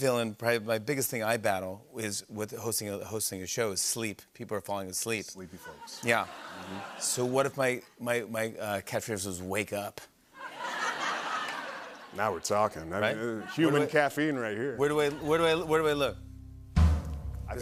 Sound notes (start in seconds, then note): 10.4 laughter; 15.3 dramatic music plays